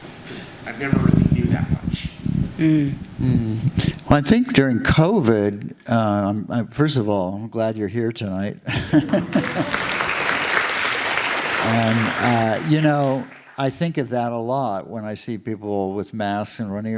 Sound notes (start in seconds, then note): 8.8 the audience applauds